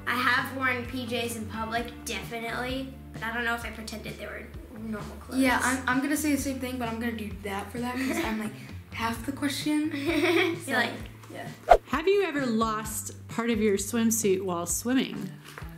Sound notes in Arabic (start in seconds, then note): 8.2 يضحك; 11.6 سووش